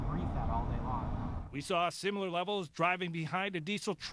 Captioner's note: voiceover